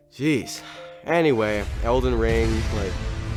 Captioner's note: sighs